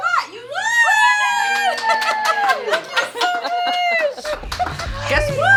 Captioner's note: group cheering and clapping